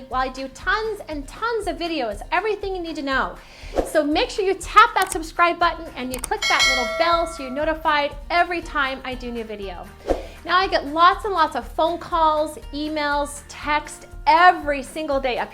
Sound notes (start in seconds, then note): 6.1 button clicking; 6.2 bell dinging